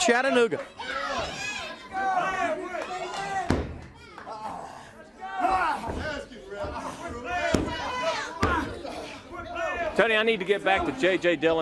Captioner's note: crowd chatter